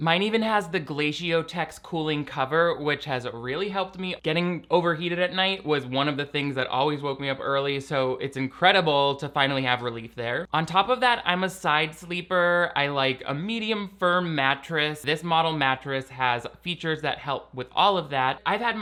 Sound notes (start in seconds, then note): none